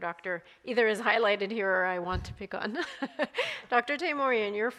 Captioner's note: laughs